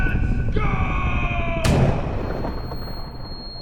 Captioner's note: thunder rumbling; shot firing; ears ringing